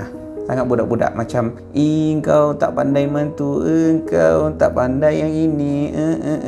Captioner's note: mimicking kids mocking each other